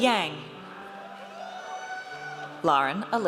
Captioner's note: audience cheers